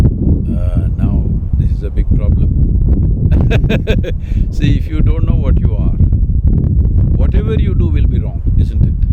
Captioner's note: laughs